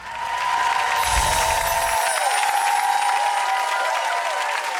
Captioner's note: audience cheering